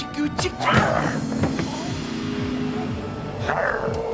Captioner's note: he groans